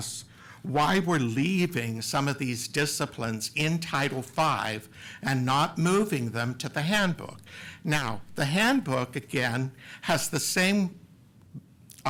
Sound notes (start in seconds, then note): none